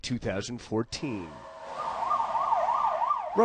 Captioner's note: sirens